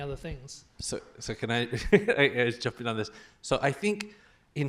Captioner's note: laughs